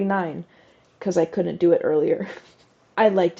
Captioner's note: laugh